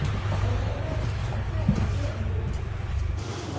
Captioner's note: aircraft engine